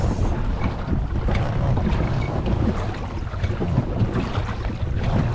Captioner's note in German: Wasser plätschert leise